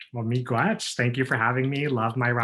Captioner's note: speaks foreign language